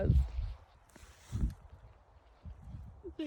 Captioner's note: wind gusts; coat rustles